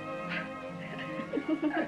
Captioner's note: giggling